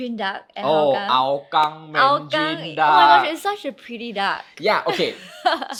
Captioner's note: laughing